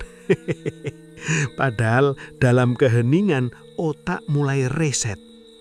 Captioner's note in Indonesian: tertawa